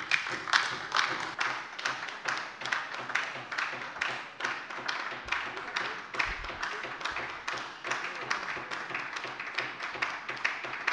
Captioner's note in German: Beifall bei der LINKEN